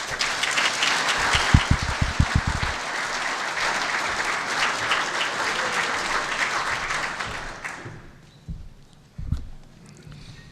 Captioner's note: applause